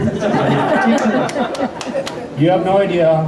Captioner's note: laughter